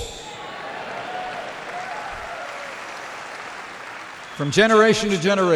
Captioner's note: applause